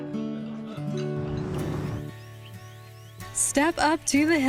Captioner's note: whoosh